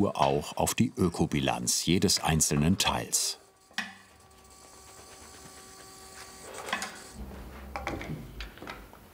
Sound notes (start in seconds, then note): 3.4 quiet whirring in the background